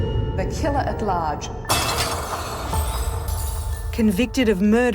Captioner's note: glass shattering, eerie music